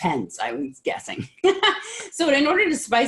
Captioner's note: laughing